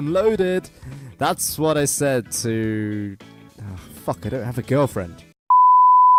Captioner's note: sigh